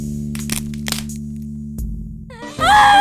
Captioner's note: snapping